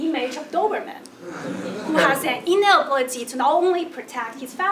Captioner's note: laugh